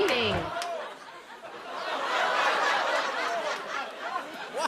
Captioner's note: laughter